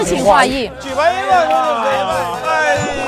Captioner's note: laughs